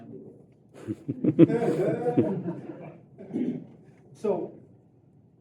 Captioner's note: laughter